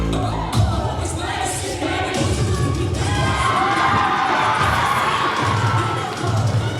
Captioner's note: audience cheering; cheer music playing